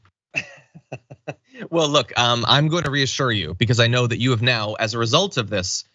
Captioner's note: laugh